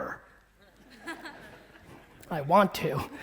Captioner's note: audience laughing